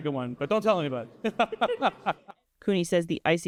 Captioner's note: laughter